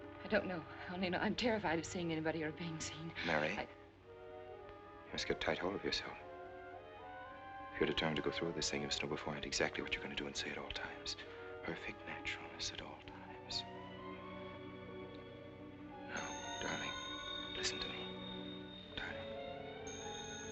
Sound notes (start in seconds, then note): 17.9 phone ringing